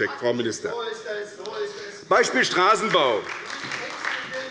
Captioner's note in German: Beifall bei der SPD